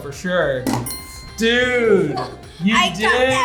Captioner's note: bell rings